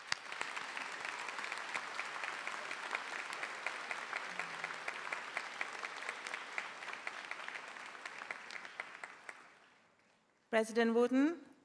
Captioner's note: applause